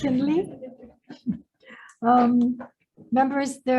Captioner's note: audience laughing